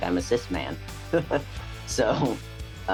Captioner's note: chuckling